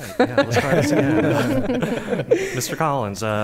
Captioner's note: laughter